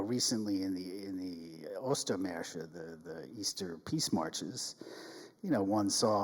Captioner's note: speaks in German